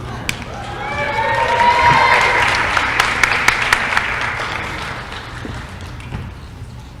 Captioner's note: applause